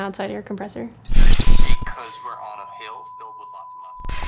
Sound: tone

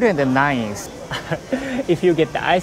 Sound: chuckles

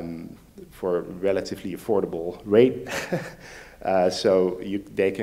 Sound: laughs

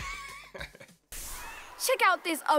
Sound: laughs

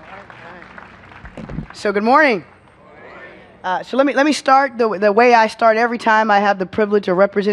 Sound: applause

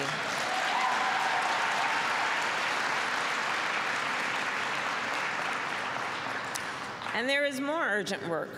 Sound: applause

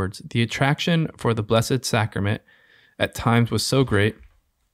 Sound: none

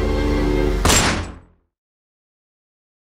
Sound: gunshot

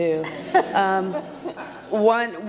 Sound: audience laughs

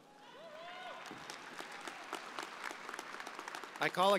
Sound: audience applauding

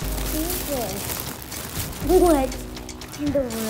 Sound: bag rustles

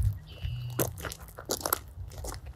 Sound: gravel crunching

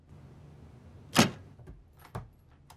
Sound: door shuts

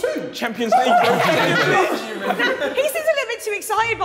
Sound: Sidemen laughing

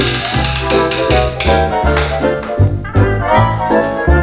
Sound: gear cranking

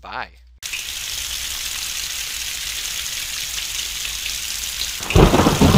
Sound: raindrops clicking; thunder claps

